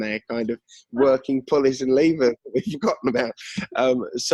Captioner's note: laughs